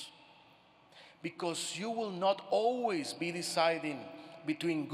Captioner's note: none